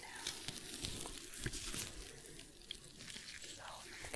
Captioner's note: sticky sounds, shuffling